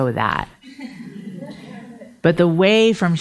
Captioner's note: audience laughing